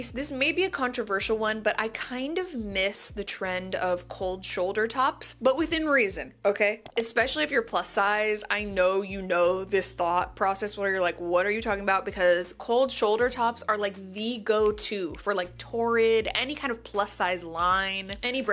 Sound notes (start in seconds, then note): 6.8 mouse clicks